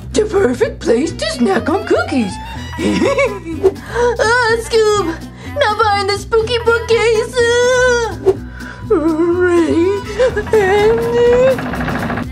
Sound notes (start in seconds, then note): 2.6 hee hee hee hee